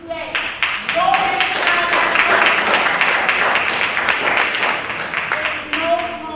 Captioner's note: applause